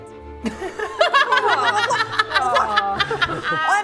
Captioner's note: laughing